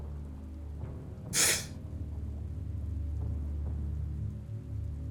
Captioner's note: Zhou inhales sharply